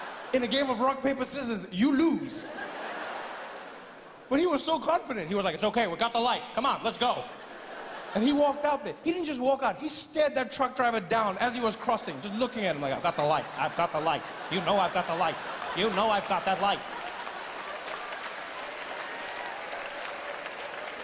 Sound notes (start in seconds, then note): 0.0 laughing continues; 17.0 audience cheering